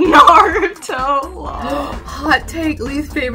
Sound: gasps

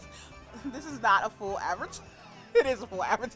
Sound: laughs

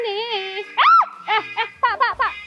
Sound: shout

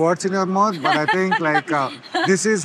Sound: laughs

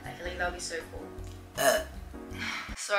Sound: burp

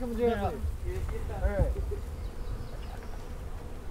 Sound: laughing

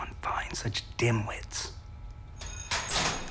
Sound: school Bell Rings

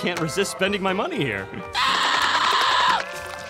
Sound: screeching

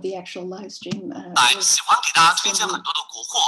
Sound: Mandarin

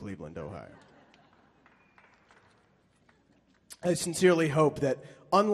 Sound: audience chuckling and clapping

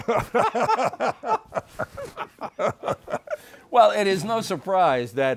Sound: both laughing

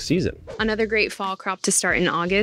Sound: screen whooshes

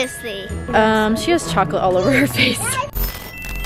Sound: laughs

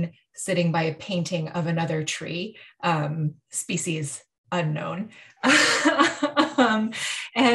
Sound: laughing

